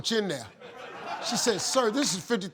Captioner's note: audience laughing